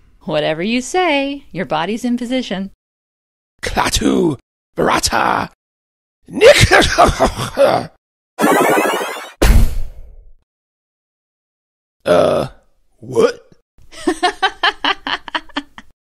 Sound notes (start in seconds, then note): 7.1 unintelligible cough; 8.4 magic sounds; 14.0 hysterical laughter